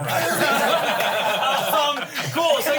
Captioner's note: everyone laughs